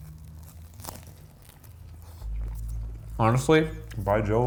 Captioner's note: sandwich crunching